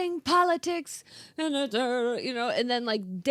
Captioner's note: humming